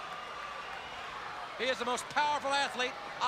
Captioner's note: crowd chatters